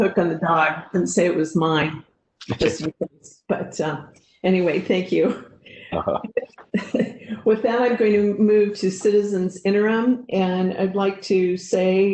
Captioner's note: laugh